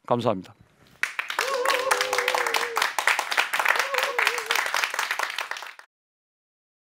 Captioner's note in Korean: 박수와 환호